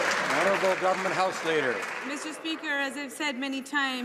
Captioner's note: some Applause